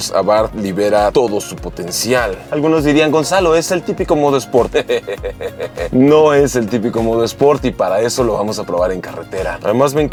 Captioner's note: laugh